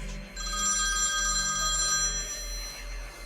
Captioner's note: phone ringing